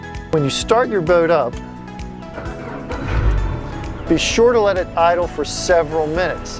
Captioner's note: engine starts